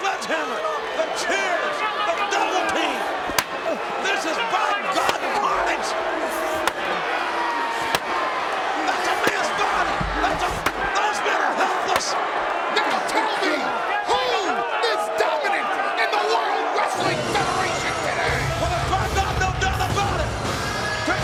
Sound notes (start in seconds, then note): 11.8 presenter speaking faintly off mic